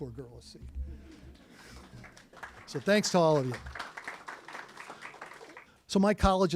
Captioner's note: applause